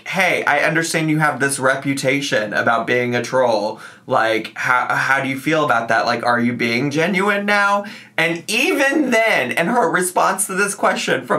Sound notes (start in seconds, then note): none